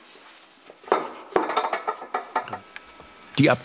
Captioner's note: clattering